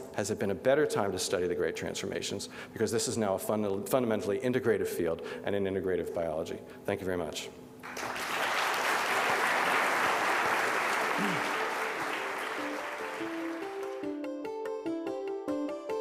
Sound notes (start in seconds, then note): 7.8 audience applauding; 13.2 gentle music